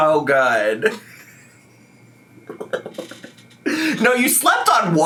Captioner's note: giggling